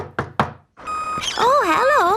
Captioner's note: knocking at door